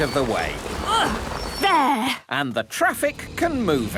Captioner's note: grunts